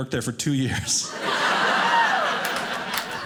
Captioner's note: audience laughing